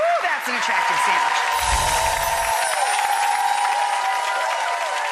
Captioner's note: audience cheering